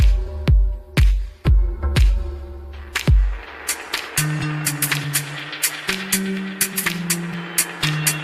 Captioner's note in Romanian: Aplauze